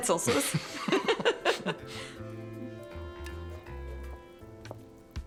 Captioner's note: laughs